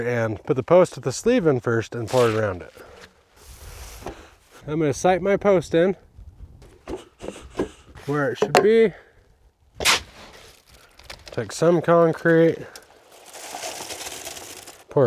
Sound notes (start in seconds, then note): 6.7 post pounding; 12.9 concrete mix pouring in